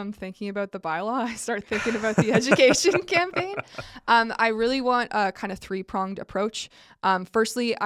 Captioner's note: laughs